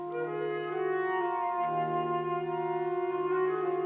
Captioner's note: none